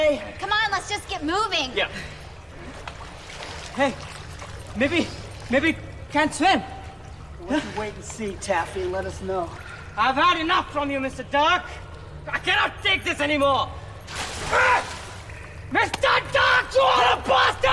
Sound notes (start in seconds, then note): 13.9 water splashing; 14.4 yells